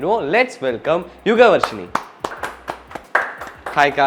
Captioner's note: people in the set are clapping